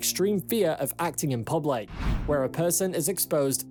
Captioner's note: screen swishes